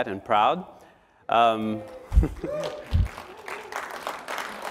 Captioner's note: cheering